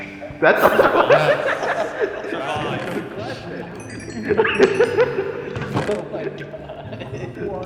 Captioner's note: laughter